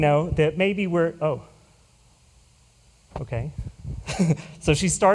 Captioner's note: chuckles